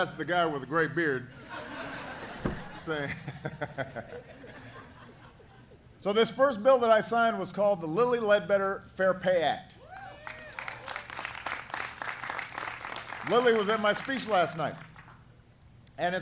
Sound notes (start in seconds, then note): 4.9 laughter; 10.2 applause